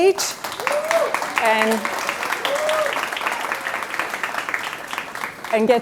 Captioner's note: audience cheering and clapping